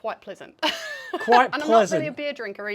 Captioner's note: laughs